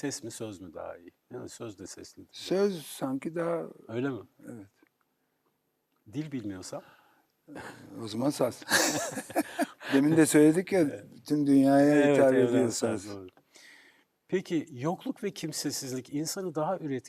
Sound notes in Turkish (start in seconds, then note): 8.6 kahkaha